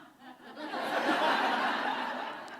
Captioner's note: laughter